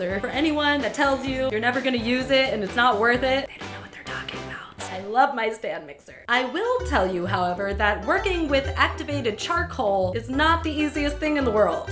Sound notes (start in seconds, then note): 3.4 whispering